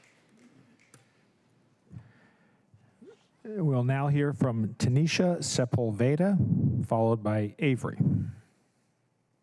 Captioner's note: applause